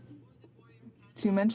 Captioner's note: speaking French